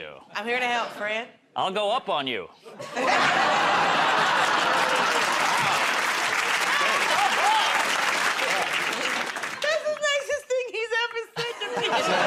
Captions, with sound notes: -I'm here to help, friend. -I'll go up on you. [ Laughter ] [ Applause ] -That's the nicest thing he's ever said to me.